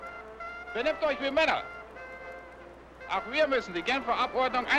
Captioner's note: speaking in German